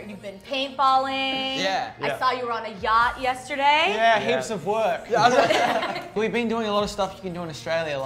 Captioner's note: laughing